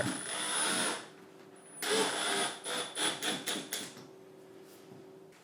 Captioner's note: drilling screws